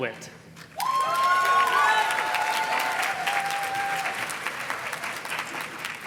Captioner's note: audience cheers and claps